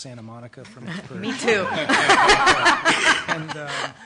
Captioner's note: laughter